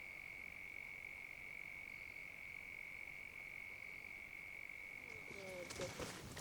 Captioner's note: crickets chirping